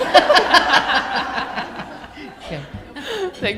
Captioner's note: laughter